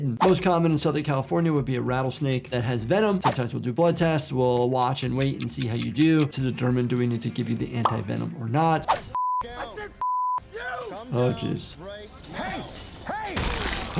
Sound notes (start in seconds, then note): 10.0 beep; 13.4 body splattering